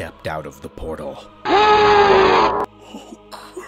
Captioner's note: Second Baron of Hell bellows